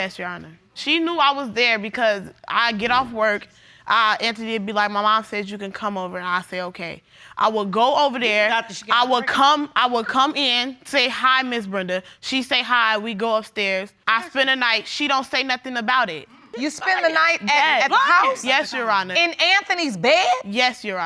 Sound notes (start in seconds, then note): 15.8 yelling